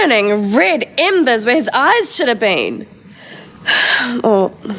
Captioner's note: sighs